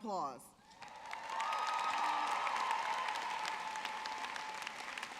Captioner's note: audience cheering